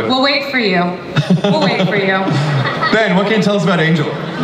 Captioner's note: Chris laughs